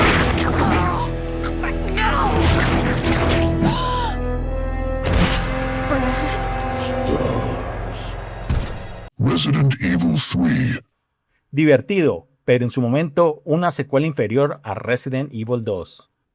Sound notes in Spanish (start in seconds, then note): 3.6 grito